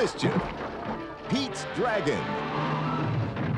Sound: narrator reading

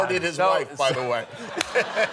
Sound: laughter

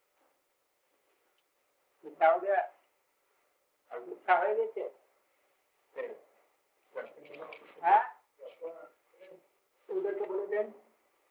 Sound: Hindi

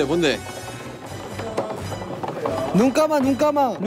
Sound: tapping

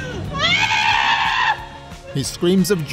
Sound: screaming

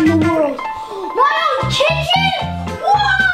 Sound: gasps

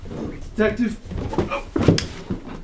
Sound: falls

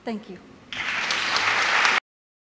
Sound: applause

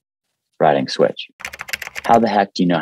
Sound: keyboard clicking

